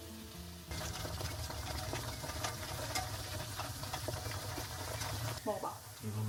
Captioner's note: Frying ASMR